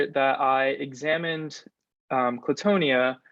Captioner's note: none